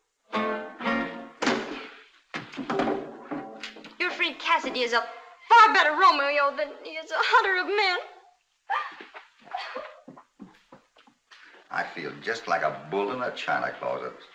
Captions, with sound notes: [ FINAL CHORD ON THE GUITAR ] Your friend Cassidy is a better Romeo than the other men. [ ANITA CRIES ] I feel just like a bull in a china closet.